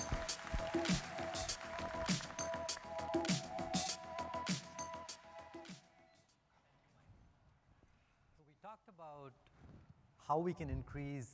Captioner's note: applause